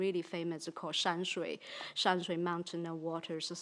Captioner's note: speaks in foreign language